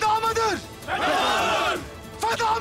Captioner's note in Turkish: Hep bir ağızdan